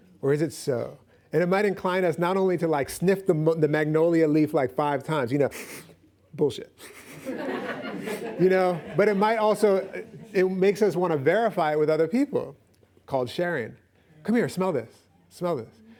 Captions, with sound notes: Or is it so? And it might incline us not only to sniff the magnolia leaf five times. [sniffs] Bullshit. -[laughs] -But it might also-- It makes us want to verify it with other people, called sharing. "Come here, smell this. Smell this."